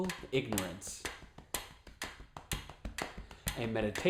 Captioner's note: tapping and ticking sound